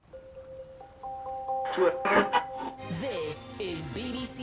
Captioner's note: soft music; radio tuning